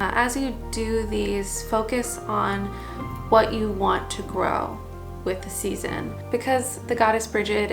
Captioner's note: steps